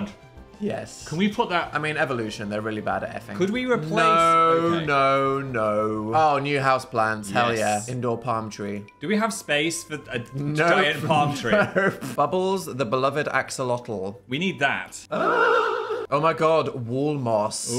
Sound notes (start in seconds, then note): 15.1 sound warping